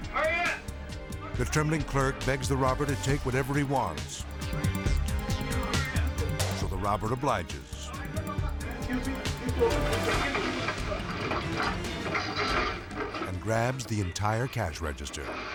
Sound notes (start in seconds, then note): 9.3 objects clattering; 10.0 dramatic music